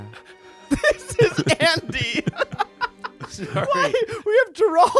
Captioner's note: laughs